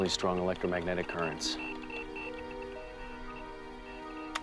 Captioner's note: clicking